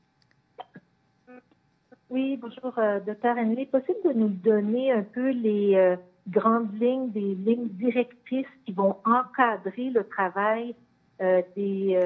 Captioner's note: speaking French